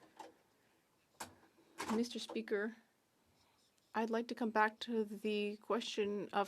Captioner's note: speaking French